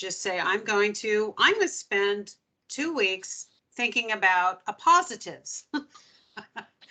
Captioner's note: laughing